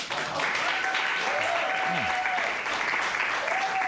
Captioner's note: cheers and applause